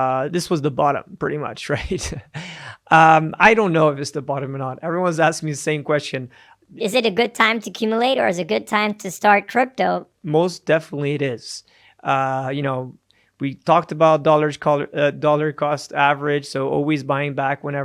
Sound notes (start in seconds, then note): 10.4 normal voice